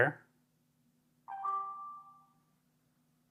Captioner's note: phone chimes